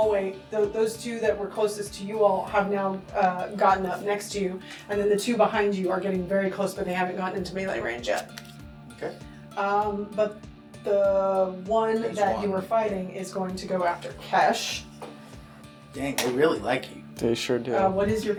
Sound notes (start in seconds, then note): none